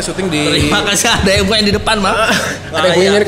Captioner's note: laugh